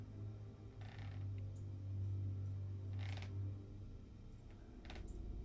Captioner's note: floor creaking